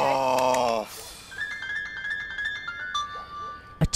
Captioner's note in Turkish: Telefon zili sesi